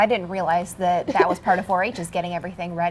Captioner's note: laughs